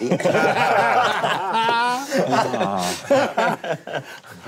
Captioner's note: group laughing